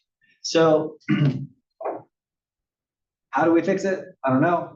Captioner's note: cough